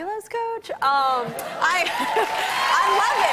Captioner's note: cheers and applause